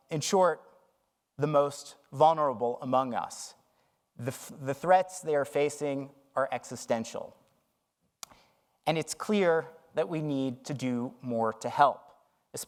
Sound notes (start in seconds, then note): none